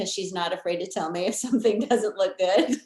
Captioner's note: laughing